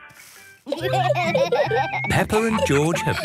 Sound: laughter

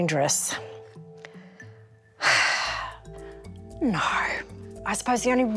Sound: sigh

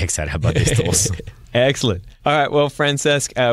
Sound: laughs

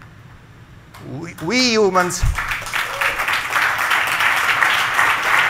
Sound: crowd clapping

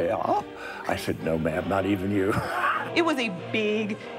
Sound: laughs

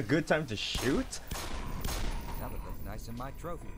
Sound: gunfire, zombie snarling

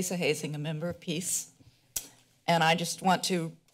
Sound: clicks tongue

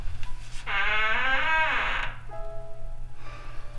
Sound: door creaking

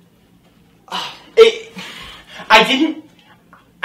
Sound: sighs

